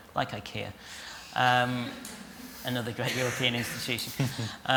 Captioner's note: laughter